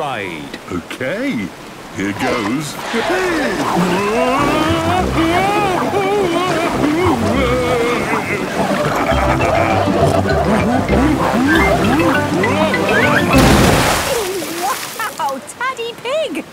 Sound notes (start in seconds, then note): 5.1 Daddy Pig shouting; 8.7 laughing, snorting